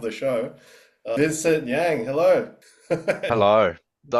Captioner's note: laughs